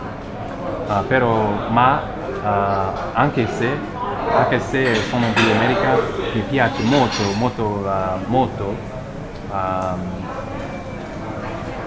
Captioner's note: italian